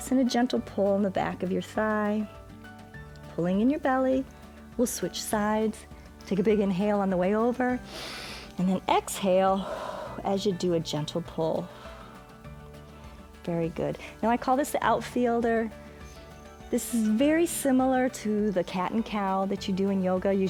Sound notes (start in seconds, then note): 7.8 exhales; 7.8 inhales